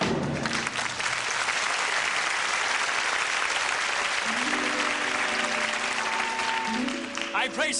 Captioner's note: applause